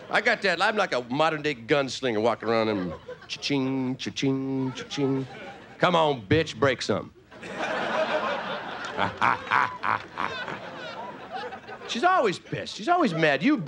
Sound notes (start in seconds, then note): 7.3 audience laughing; 9.1 playful grunting